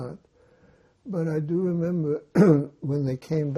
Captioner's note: clears throat